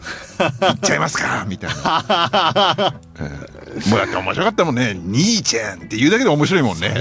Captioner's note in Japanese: 笑い